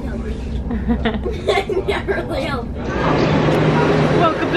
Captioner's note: laughing